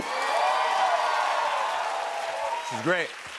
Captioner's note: cheers and applause